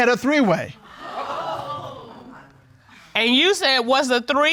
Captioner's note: audience gasps